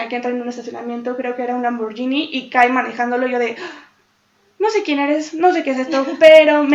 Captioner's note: gasp